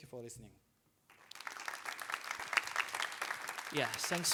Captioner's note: applause